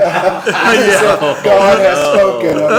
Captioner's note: laughter